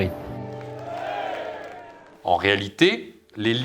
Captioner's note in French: applaudissements